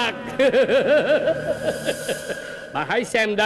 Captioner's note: loud laughter